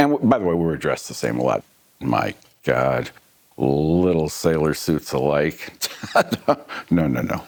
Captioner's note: laughs